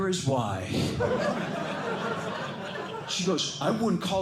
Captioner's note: laughter